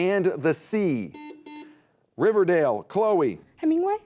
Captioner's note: buzzer beeping